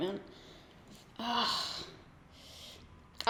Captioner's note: groans